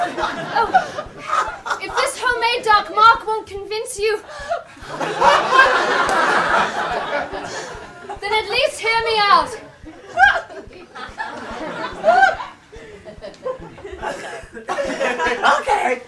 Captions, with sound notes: If this homemade Dark Mark won't convince you Then at least hear me out (Voldemort laughs) Okay